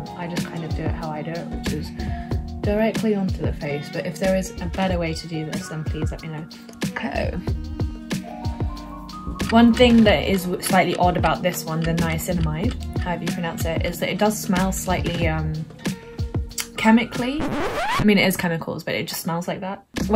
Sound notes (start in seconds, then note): 17.2 records scratches